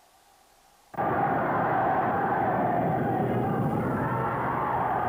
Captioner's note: crowd shouts